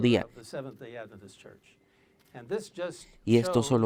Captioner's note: Hablando idioma extranjero